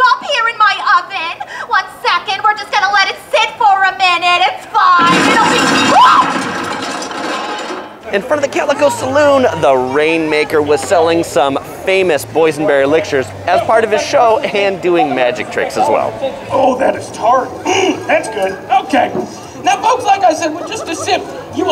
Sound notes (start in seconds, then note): 5.0 fire exploding; 5.3 screaming